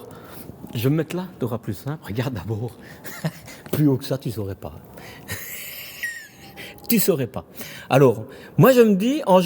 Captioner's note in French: rires